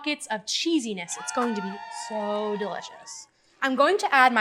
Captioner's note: cheering